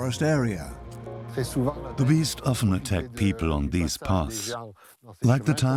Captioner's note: French dubbed into English